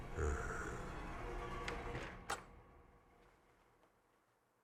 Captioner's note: Meathook Man growls